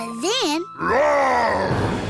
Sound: dragon roars

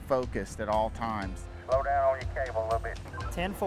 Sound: crew radio

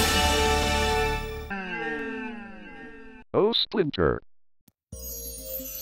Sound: orchestral music playing; echoing; magical music plays

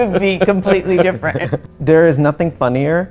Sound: laughs

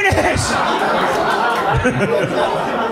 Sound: laughs

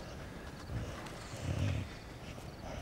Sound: snoring softly

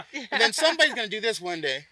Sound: laugh

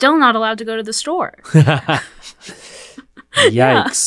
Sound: laughs

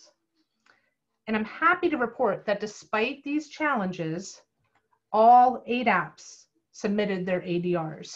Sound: click

